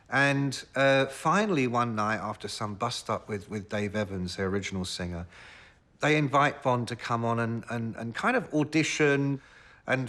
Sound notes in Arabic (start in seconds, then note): none